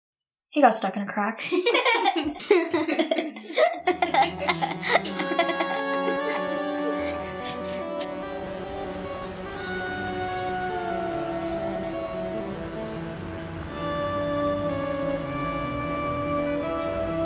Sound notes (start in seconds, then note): 1.4 Esther and grace laughing; 5.7 dramatic music